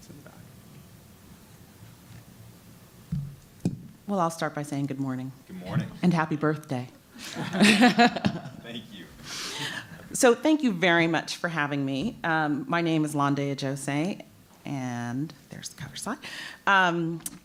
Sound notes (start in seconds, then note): 7.2 laughs